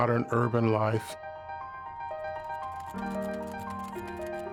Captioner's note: sewing machine clicking